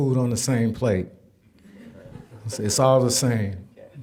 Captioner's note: audience chuckling